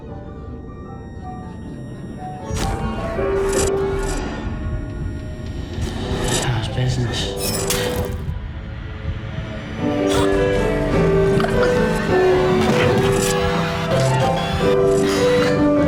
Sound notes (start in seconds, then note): 0.1 indistinct chatter; 10.0 gasps; 12.4 gurgling